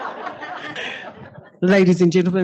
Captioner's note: laughter